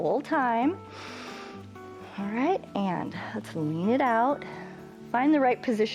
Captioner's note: inhales